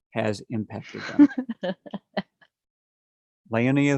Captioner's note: laughs